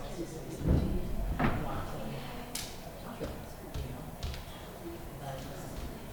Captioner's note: performers whisper pep talks to themselves